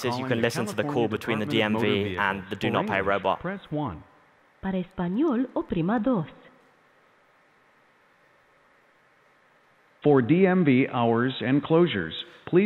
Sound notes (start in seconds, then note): 4.1 male Robotic Voice; 5.4 speaking in foreign language